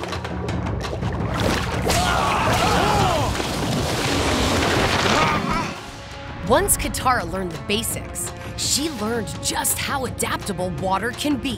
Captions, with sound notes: [screaming] [grunting] Once Katara learned the basics, she learned just how adaptable water can be.